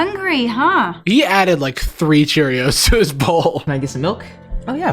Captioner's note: laughs